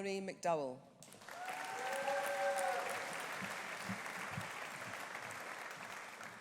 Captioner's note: audience applauding; audience cheering